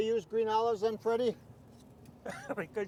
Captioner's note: man laughing